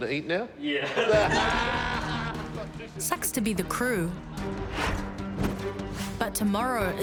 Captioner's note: laughs; laughter